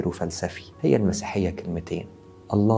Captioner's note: in Arabic